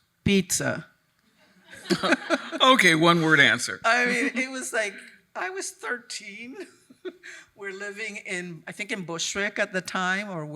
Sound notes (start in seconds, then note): 1.6 attendees laughing; 6.7 chuckles